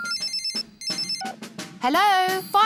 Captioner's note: phone rings